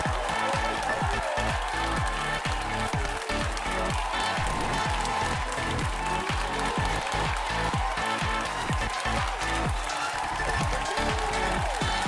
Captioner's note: applause